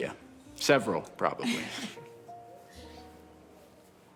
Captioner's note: Rachel laughs